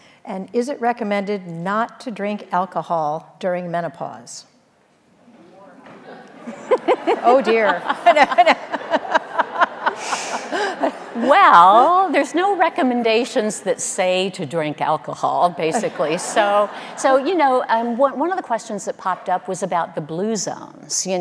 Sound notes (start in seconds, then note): 5.3 audience murmuring; 8.3 audience laughing